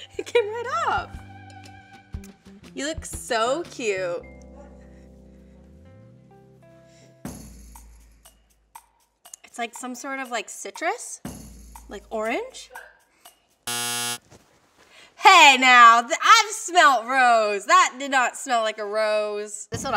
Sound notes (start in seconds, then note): 13.6 error buzzer